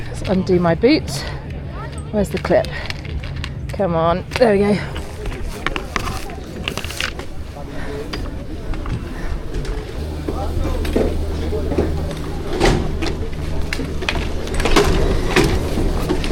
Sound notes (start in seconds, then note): 5.6 skis clack; 9.4 people chatter; 12.8 skis clack